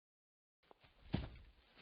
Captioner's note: thomp